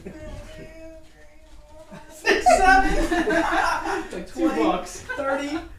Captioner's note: laughs